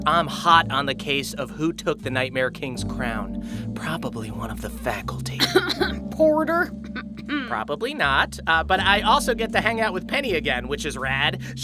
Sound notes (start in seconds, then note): 5.4 coughing